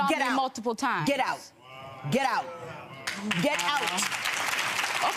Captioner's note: clapping